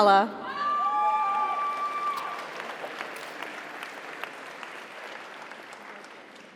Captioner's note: audience cheers; audience applauds